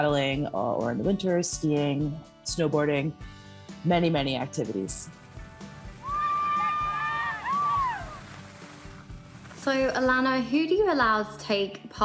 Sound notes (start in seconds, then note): 6.0 screaming